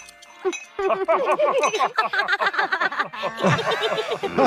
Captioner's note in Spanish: personajes riendo; riendo